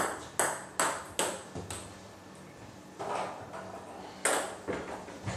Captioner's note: balls ping pong hitting continues